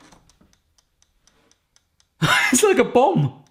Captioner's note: timer ticking